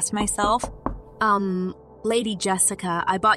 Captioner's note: knock knock